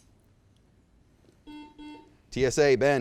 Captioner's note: buzzer beeps